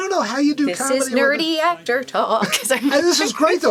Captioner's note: singsongy